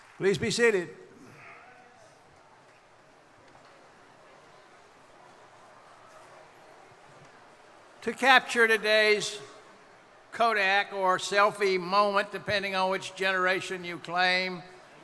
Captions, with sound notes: - Please be seated. (people chattering) To capture today's Kodak or selfie moment, depending on which generation you claim,